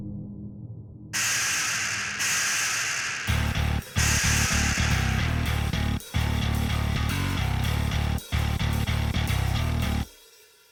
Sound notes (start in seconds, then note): 1.2 scorpions hissing; 3.3 intense rock music